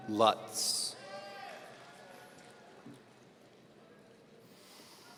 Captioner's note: audience cheering